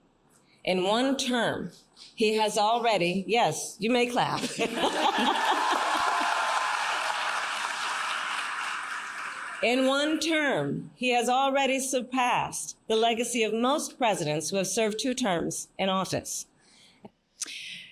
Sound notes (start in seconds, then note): 4.4 laughter; 4.8 cheers and applause